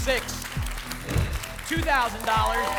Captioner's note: whoosh